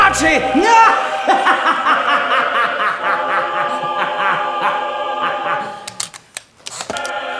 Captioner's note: sinister laughter